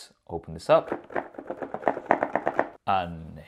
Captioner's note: box rattling